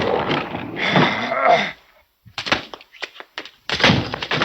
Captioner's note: Philip growling; thudding